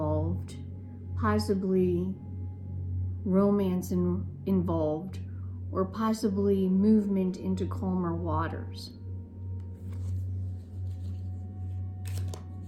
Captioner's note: cards shuffling